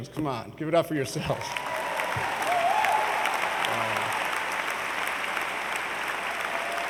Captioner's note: audience cheers and applauds